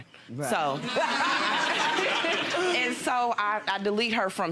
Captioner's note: audience laughs